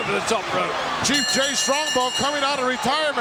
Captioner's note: bell ringing